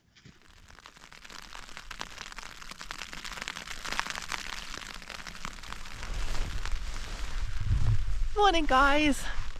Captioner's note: light rain